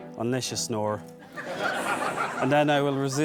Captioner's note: guests laughing